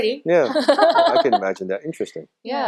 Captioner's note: laughing